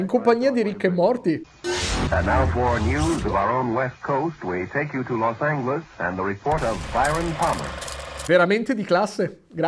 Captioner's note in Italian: Voci in radio inglesi